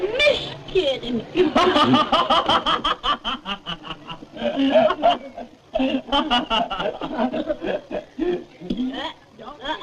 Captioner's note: raucous laughter